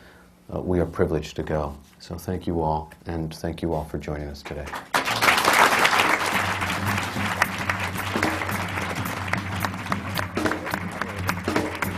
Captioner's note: applause